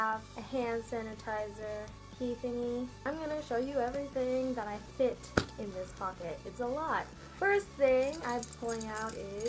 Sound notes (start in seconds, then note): 5.4 smack